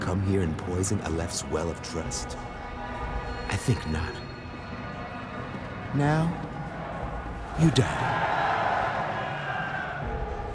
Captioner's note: cheering